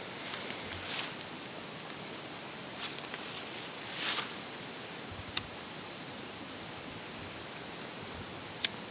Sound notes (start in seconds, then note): 5.2 lighter clicking